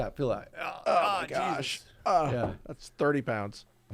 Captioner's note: groans